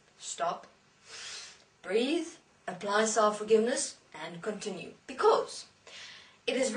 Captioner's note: inhale